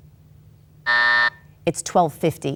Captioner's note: buzzer buzzes